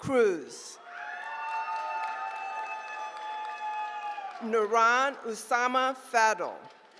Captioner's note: applause; applause